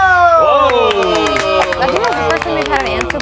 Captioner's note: all cheering